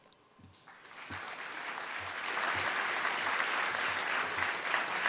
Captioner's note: audience applauding